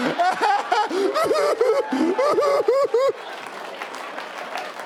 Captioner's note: laughing; crying; audience applauding